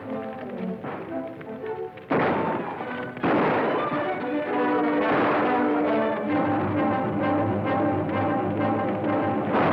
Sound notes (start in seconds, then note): 2.0 guns firing; 2.1 dramatic music